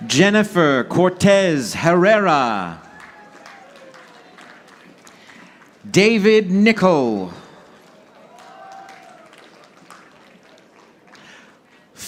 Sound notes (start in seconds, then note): 2.7 audience applauding; 8.8 audience applauding